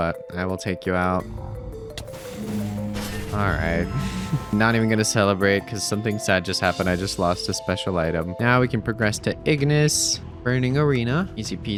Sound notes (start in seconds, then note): 4.0 laughs